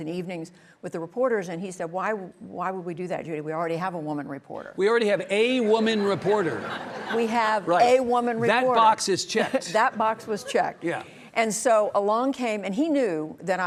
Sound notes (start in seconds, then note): 5.7 audience laughing